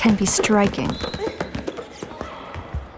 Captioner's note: whimpering